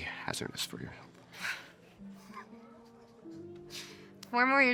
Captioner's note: both chuckling